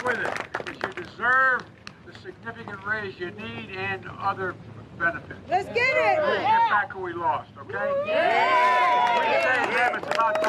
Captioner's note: applause